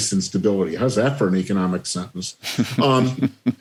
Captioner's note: laughter